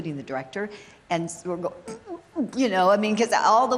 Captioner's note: chocking sound